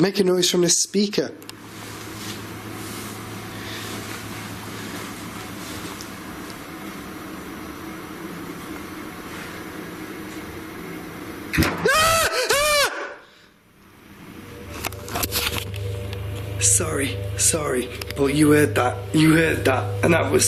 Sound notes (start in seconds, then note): 11.8 screaming; 11.9 loud banging